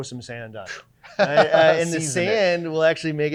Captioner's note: laughing